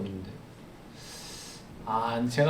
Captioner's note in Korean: 스읍